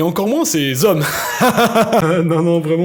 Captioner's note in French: rires nerveux